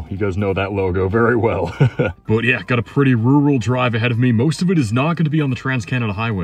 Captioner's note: laughs